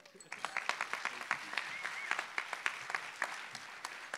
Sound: applause

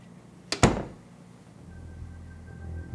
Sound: door closes

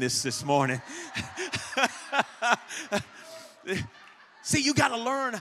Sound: pastor and congregation laugh

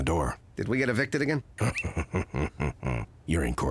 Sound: raspy chuckling

